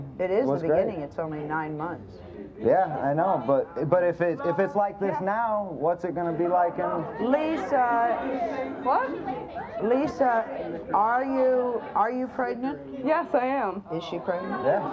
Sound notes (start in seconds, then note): 8.4 audience yelling